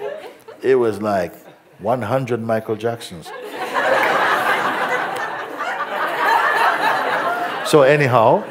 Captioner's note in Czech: smích